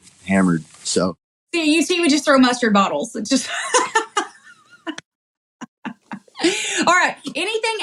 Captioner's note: laugh